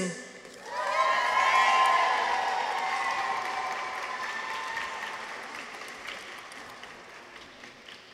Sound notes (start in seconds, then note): 0.5 people cheer; 0.5 audience applauds